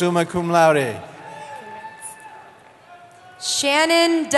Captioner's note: cheering